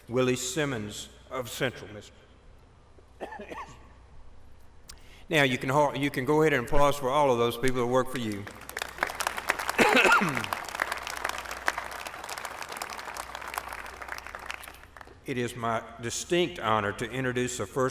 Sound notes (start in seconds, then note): 8.1 applause